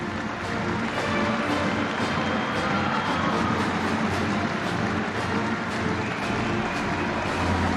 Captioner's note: crowd cheering